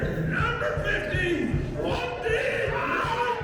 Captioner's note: fans cheering